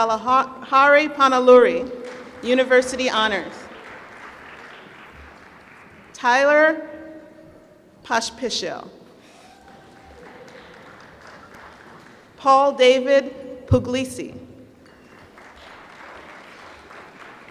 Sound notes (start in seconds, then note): 4.0 applause; 9.4 applause; 14.9 applause